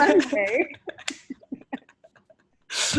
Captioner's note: laughs